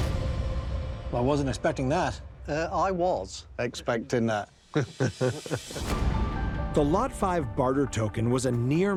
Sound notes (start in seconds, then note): 4.7 laughs